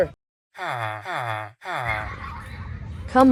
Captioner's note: villager noises